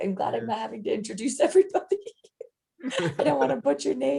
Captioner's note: laughs